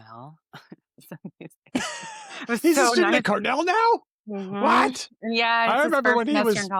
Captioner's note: laughs